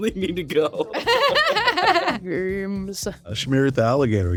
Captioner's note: all laughing